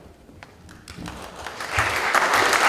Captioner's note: applause